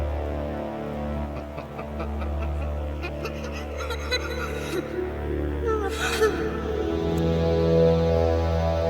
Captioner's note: laughing